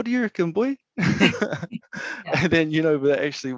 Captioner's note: laughing